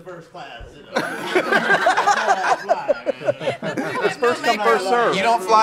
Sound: laughing

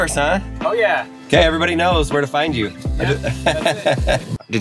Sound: laughs

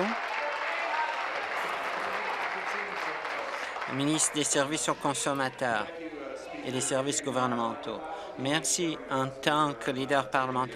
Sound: applause

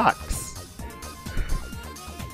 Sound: sighs

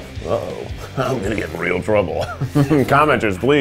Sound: chuckling

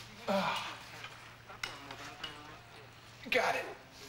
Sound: <i> grunting</i>

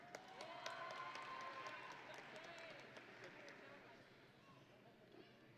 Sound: audience and graduates cheering

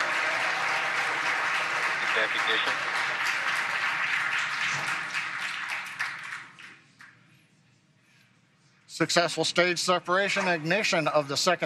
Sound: cheering and applauding

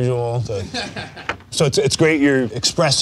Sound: laughing

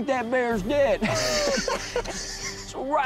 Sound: both laughing

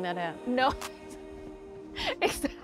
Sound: laughs

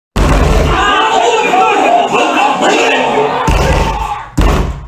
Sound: everyone arguing

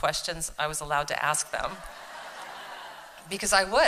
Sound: laughter

